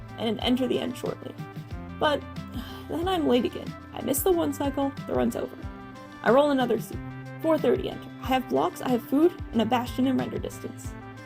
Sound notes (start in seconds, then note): 2.5 sigh